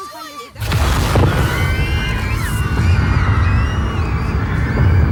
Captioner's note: crowd screaming